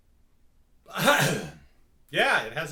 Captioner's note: gags